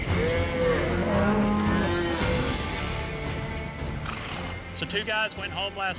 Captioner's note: mooing